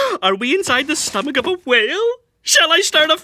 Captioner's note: gasping